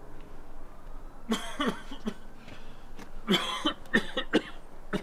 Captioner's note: deep coughing